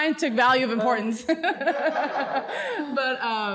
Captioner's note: laughs